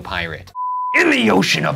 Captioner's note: beeping